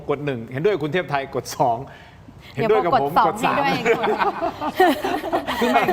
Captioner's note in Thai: เสียงหัวเราะ